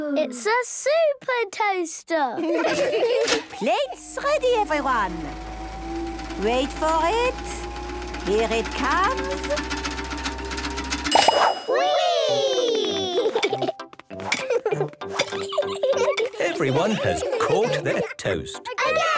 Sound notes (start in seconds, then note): 3.4 clicks; 6.7 super toaster vibrating; 10.5 pings; 18.7 children calling out